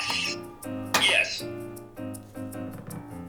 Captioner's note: automated Voice